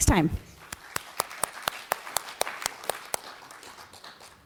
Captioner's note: audience applauds